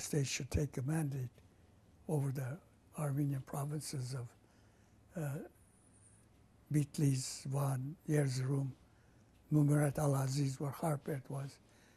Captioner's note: armenian